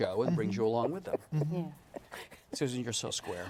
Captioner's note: laughs